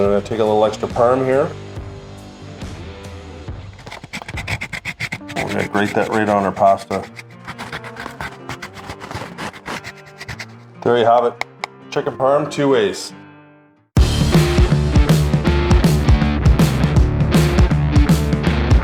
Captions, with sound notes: Take a little extra parm here. (cheese grating) We're gonna grate that right on our pasta. (cheese grating) There you have it. Chicken Parm, two ways. (rock music)